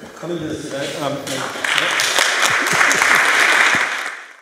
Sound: applause

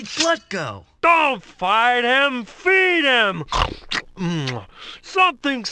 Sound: chomp

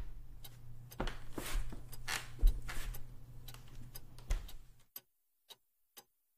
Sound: footsteps creak

